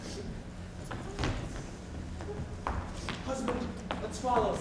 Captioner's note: Bianca sniffles